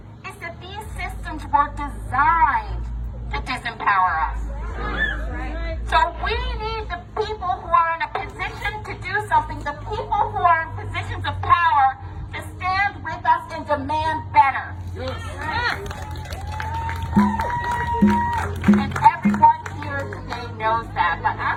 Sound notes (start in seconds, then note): 15.0 audience applauding; 15.7 audience cheering; 17.1 audience drumming